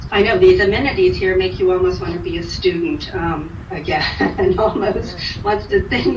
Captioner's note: chuckles